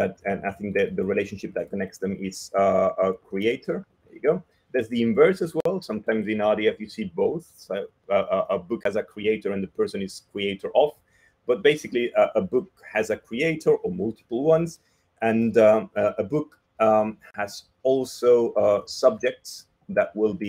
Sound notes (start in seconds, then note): none